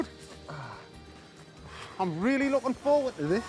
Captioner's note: exhales